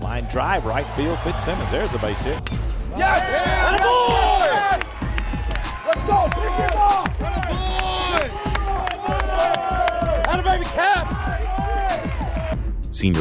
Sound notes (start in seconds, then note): 6.8 cheering and applause